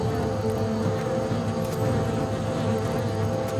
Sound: bees buzz

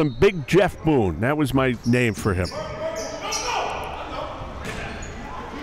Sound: yelling

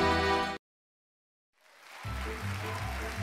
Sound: cheers and applause

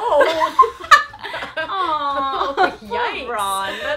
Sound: laughing

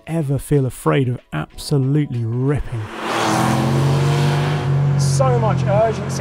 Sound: engine roars

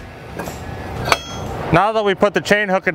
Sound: metal clanking

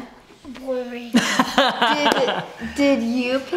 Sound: laughs

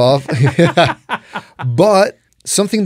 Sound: both laughing

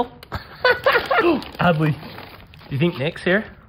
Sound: laughing

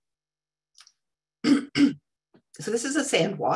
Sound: clears throat

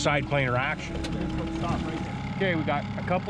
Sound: boat engine idling

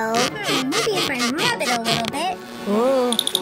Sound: rubbing sound with hand

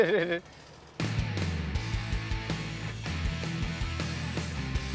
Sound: laughs; rock music

